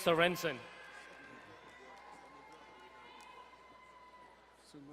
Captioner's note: distant cheering